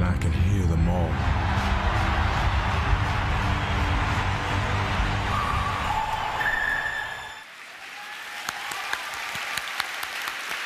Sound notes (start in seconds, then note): 0.7 fans cheering and chanting; 7.4 applause